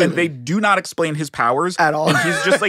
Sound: laughing

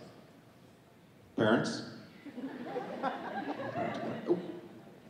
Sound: audience laughing

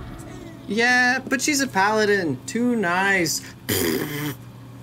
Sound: blows raspberry

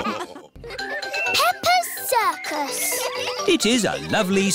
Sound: children giggling

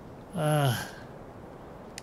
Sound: gasping

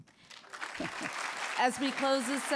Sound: audience clapping

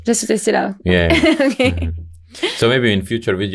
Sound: laughing

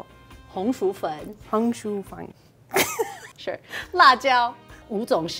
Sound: speaking in mandarin

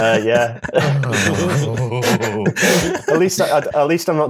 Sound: laughter

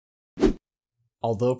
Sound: air wooshes

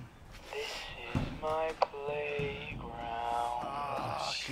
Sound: on radio/sings

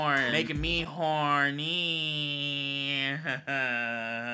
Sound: laughs

